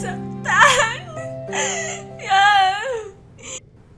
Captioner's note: cries overdramatically in Tagalog